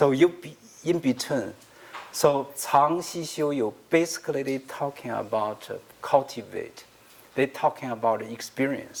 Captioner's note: speaking another language